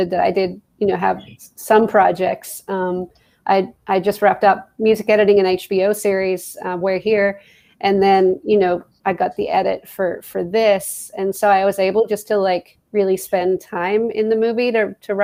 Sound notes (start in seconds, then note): none